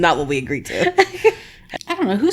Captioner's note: laughing